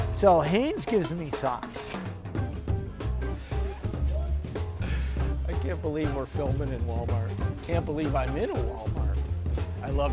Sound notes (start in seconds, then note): 2.4 chuckles; 2.4 gentle music